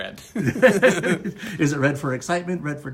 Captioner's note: laughter